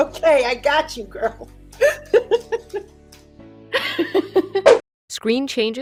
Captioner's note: laughs